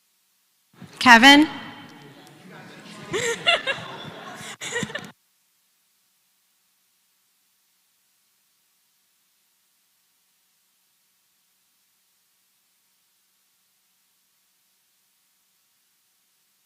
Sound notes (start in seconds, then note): 2.0 laugh